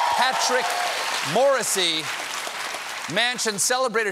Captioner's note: cheers and applause